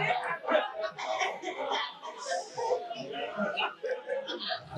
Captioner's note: audience laughing